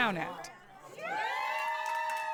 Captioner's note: cheering and applause